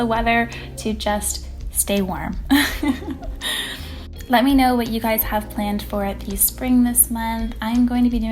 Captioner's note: laughing